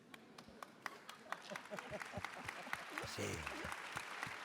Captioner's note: applause